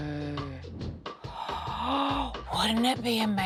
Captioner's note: gasps